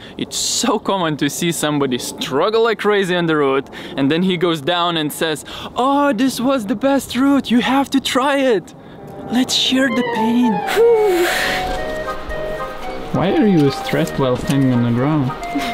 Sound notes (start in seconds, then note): 11.0 exhales nervously